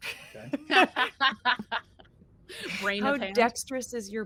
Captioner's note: laugh